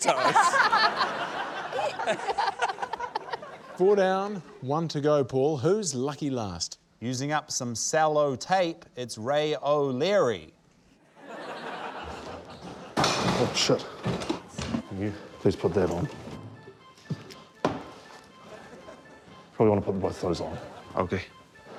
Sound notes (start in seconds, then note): 0.0 laughter; 12.7 crash!; 16.7 tense music